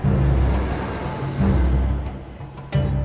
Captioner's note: bus rumbling; intriguing music